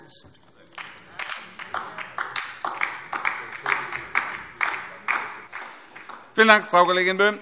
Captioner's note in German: Beifall DIE LINKE